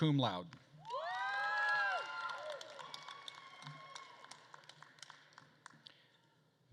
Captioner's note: attendees cheering and applauding